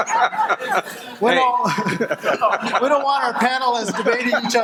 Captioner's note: audience laughing